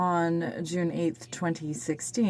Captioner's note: speaking french